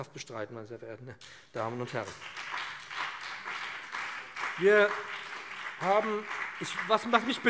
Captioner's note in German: Beifall BÜNDNIS 90/DIE GRÜNEN und CDU